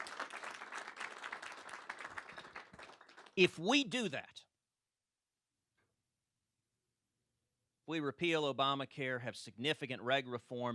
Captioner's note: applause